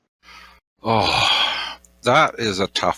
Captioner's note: sighs